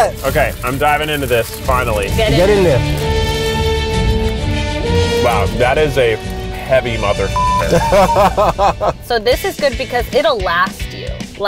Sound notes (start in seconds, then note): 3.2 suspenseful music; 7.3 beep; 7.5 laughing